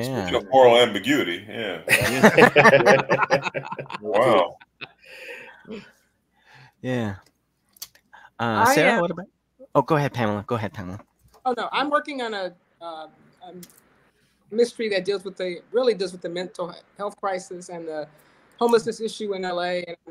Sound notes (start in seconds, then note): 1.4 laughs